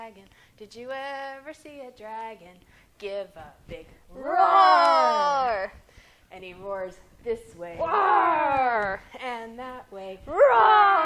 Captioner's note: roar!